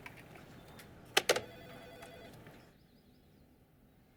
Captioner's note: click